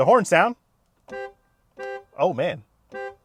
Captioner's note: horn blaring